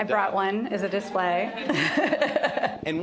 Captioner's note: laughter